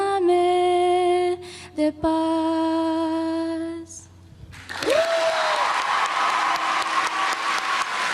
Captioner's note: applause